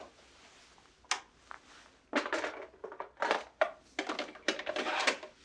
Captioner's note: switch clicking